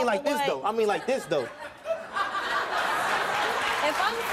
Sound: laughing

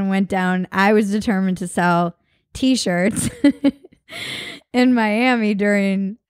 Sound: laughs

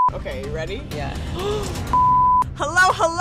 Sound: beep; beep

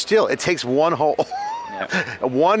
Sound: hearty laughing

